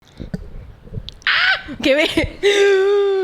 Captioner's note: panics